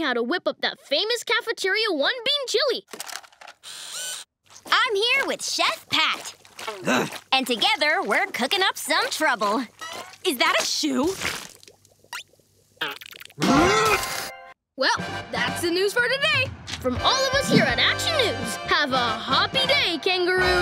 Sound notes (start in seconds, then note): 6.6 grunting